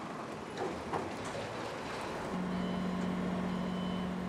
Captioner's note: truck rumbling